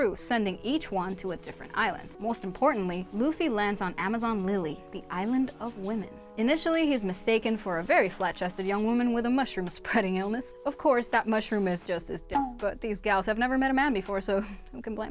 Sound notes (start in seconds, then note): 12.3 beep